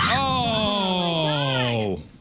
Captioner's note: screams